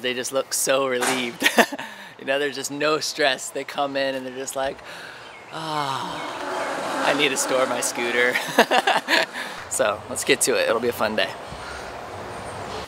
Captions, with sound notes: of the year because they just look so relieved. You know there's just no stress, they just come in and they're like, "ahhh, I need to store my scooter." (laughter) So let's get to it, it'll be a fun day.